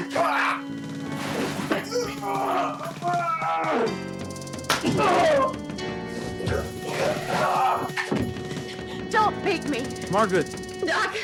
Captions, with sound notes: (both groaning) (dramatic music) (both groaning) - Don't make me. - Margaret.